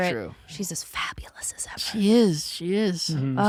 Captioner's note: whispers